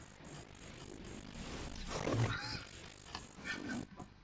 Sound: chuckles

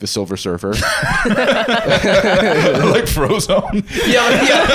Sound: all laughing

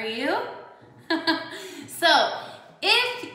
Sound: laughs

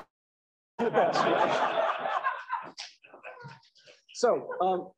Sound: laughter

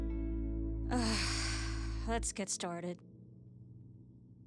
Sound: sighs

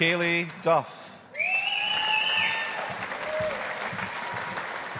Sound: audience applauding

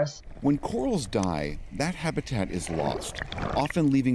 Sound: voice-over

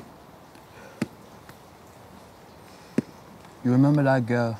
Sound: ball thuds softly

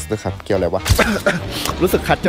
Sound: coughs

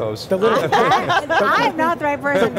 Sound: all laugh

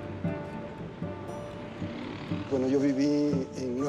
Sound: speaking spanish

